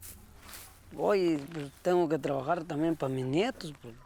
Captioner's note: speaking Spanish